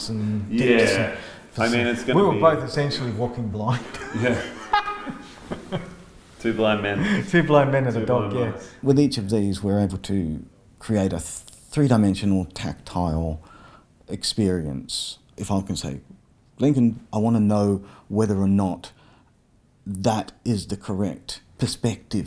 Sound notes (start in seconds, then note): 3.6 laughing